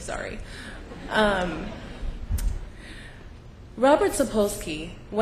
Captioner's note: laughter